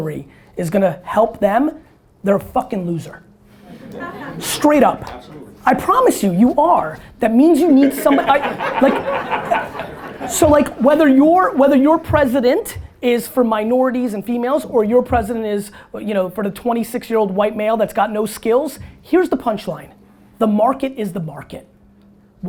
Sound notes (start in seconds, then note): 3.6 audience laughter; 7.6 audience laughter